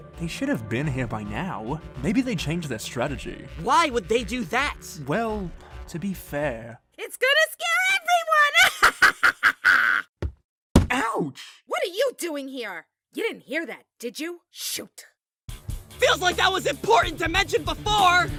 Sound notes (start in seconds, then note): 8.6 laughs menacingly